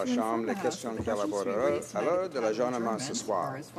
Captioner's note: speaking French